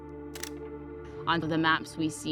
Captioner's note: camera shutter clicks